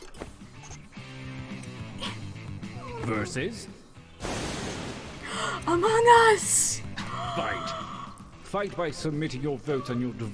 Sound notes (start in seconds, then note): 5.2 gasps